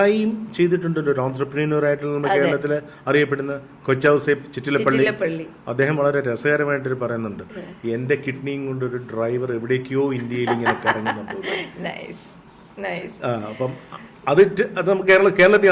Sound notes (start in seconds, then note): 10.2 laughs